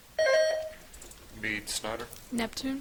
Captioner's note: buzzer chiming